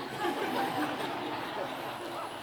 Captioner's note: laughter